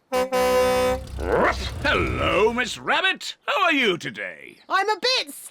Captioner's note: honks horn